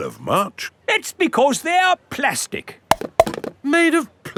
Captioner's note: clunks